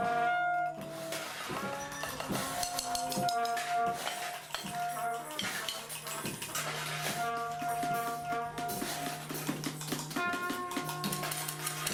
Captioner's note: applause